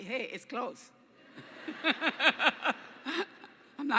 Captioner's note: laughter